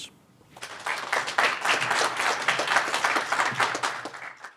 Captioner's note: audience applauds